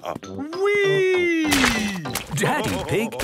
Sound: splashes

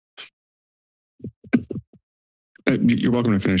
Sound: mic thumps

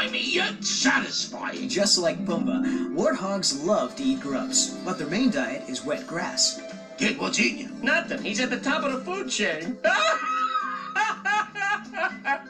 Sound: laughs

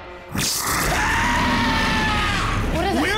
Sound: screaming

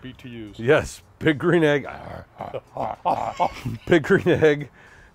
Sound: laughs

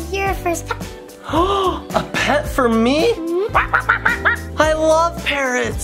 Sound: gasps

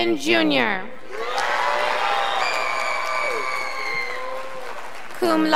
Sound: scholars applauding

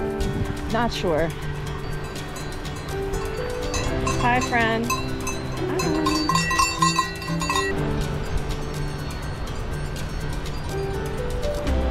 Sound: bell ringing

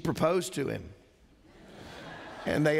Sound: laughter

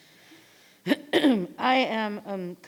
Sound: clears her throat

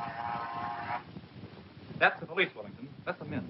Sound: buzz

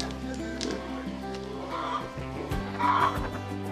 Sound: pig oink

